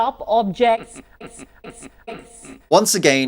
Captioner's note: Sadhguru laughs